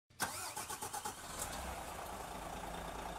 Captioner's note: engine whirring